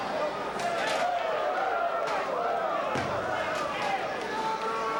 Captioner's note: spectators cheering